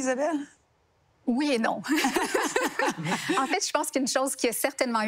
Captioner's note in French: rires